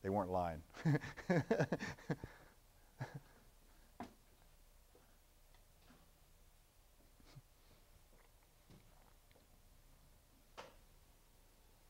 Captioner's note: laughter